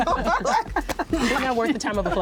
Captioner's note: laughter